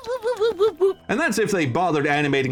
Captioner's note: zoidberg woops